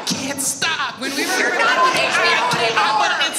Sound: audience laughs

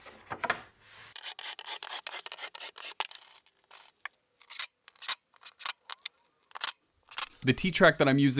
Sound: T-track sliding into rabbit and bing screwed in place

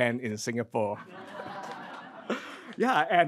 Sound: crowd giggles

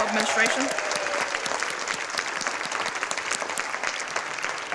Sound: audience applauding

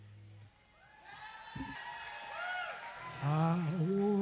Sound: crowd cheering

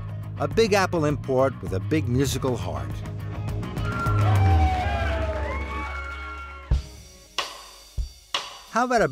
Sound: sounds of cheering

